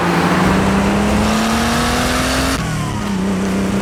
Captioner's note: engine revving